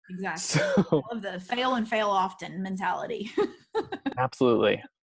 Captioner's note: laughs